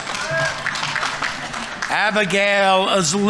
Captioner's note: audience applauding